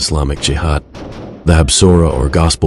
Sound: in Hebrew

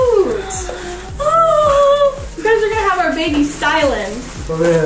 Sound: crying

